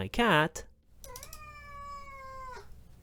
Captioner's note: mrrrweoooooooowh